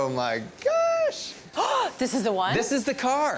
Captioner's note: gasps